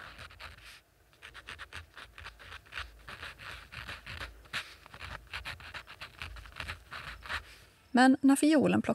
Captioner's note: A pen rasping over paper